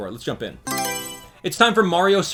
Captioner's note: Mario Selection Sound